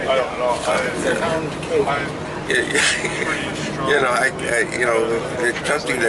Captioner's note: laughs